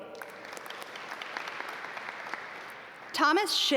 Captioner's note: audience applaud